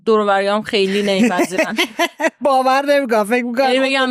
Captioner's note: laughs